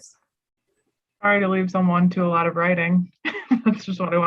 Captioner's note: laughs